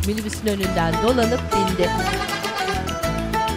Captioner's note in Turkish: Korna sesi